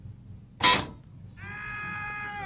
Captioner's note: buzzer; screaming